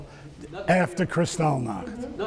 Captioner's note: speaking foreign language